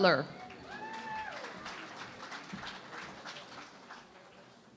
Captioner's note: cheering and Applause